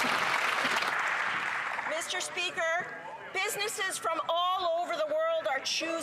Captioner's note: applause